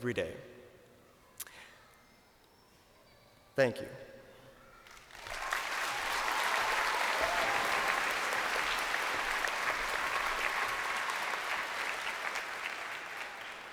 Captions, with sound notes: that we make every day. Thank you. (crowd applauding)